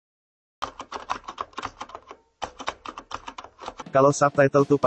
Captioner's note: keyboard typing sound